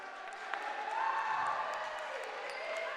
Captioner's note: cheering